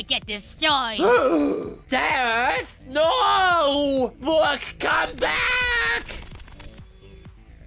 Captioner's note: gasp